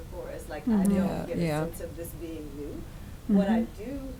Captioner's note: voice muffled